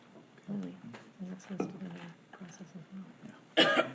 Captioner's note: speaking faintly